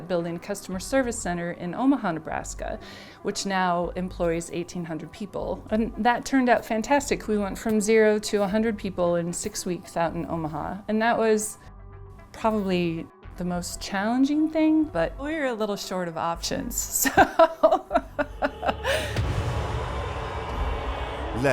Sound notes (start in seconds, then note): 17.0 laughs; 19.9 dramatic music